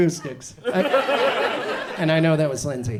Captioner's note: audience laughs